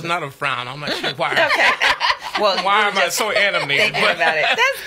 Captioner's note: laughs